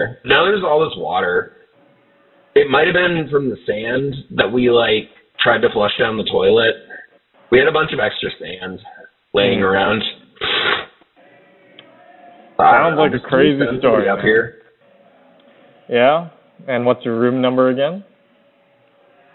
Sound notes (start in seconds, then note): 10.3 scoffs